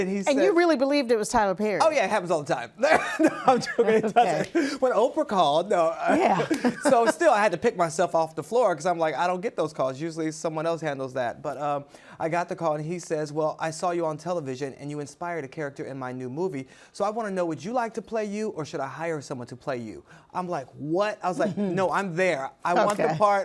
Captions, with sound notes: And you really believed it was Tyler Perry? Oh, yeah. It happens all the time. [laughs] -No, I'm joking. It doesn't. -Okay. -When Oprah called, no-- -Yeah. So, still I had to pick myself off the floor because I'm like, I don't get those calls. Usually someone else handles that, but, um, I got the call, and he says, "Well, I saw you on television, and you inspired a character in my new movie. So, I wanna know, would you like to play you, or should I hire someone to play you?" I'm like, what? I was like, "No, I'm there. I want the part.